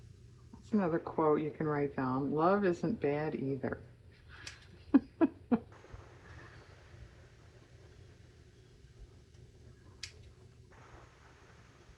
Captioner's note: laughs